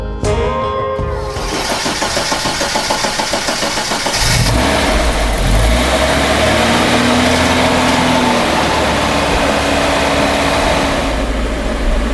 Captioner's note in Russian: работает двигатель